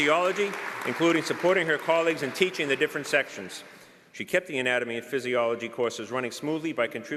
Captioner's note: applause